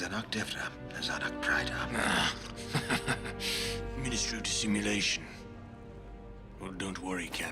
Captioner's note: giggles